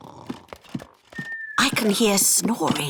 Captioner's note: snoring